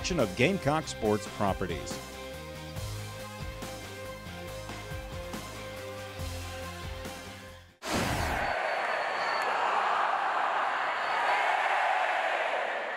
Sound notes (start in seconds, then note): 2.5 suspenseful rock music; 7.9 crowd cheering